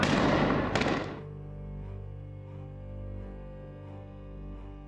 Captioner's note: shots firing; explosion